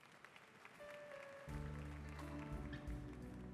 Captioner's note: applause